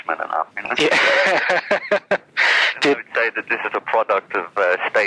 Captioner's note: laughs